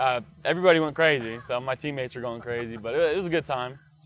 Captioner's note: laughter